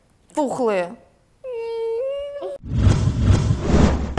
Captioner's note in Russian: плачь